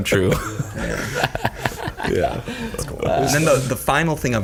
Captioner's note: all laughing